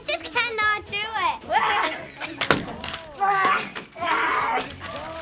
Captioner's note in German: schreit